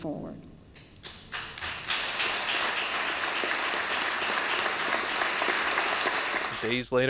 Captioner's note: audience applause